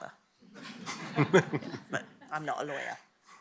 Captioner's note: laughter